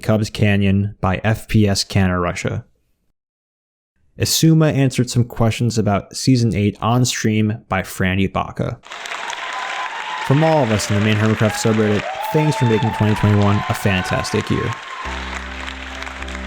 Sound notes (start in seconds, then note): 9.4 applause